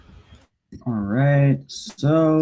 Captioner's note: clicking